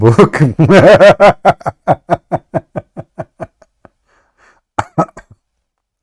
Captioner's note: Ketawa